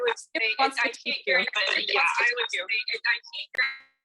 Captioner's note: static crackling